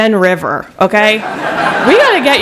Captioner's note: laughter